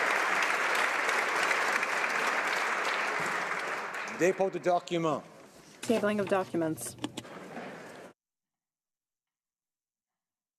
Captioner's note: applause